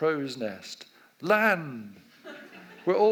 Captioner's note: audience laughs